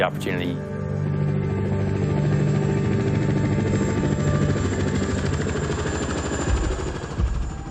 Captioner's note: helicopter blades whirring; rhythmic music plays